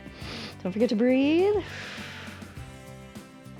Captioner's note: inhales; exhales